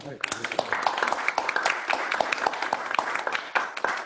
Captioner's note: applause